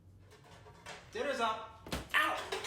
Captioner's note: thud